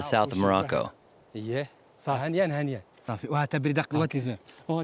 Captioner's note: Arabic spoken audio